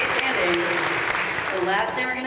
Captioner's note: audience cheering and applauding